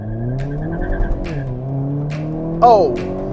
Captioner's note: engine car roaring rapidly